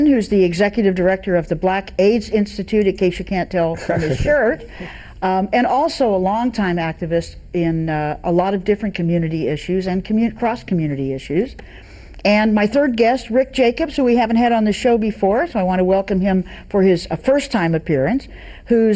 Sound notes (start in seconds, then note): 3.7 laughs